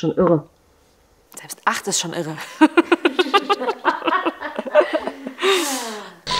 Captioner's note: laughs